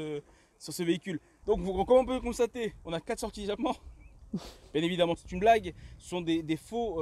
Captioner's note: laughs